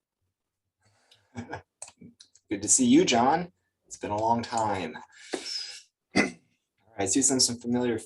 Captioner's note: laughs; clears throat